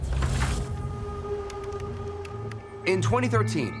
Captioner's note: keyboard clicking